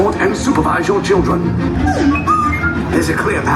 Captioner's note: droid beeping